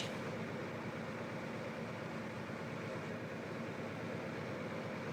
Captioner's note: car engine whirring softly